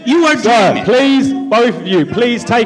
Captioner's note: shouting